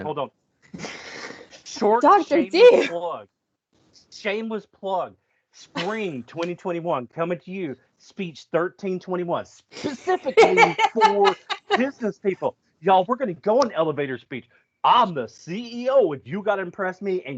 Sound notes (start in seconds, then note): 9.8 laughs